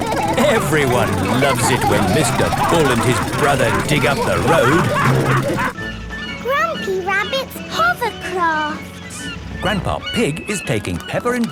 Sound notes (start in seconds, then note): 0.3 laughing; 5.3 all laughing